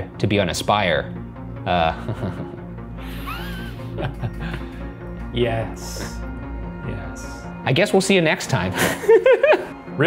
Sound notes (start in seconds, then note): 1.6 laughs; 3.0 wheezes; 8.8 giggling